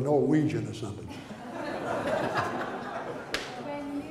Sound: audience laughter

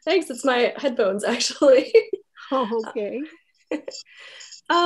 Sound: chuckles; laughs

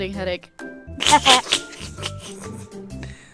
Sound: snickering at bad puns

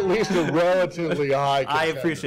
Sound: laughter

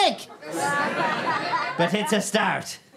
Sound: audience laughter

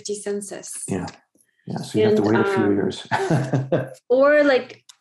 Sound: laughs

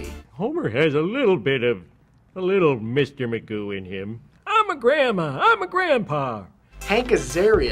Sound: Various Simpson's voices

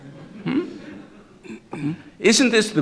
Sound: laughter

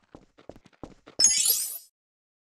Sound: lego stud collect sound

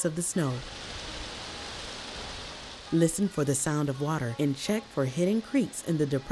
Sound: rushing water

